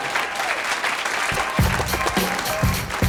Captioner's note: applause; ♬ hip-hop ♬